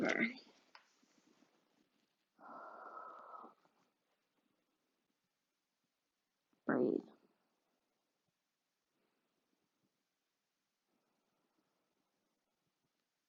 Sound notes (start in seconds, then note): 2.3 breathes deeply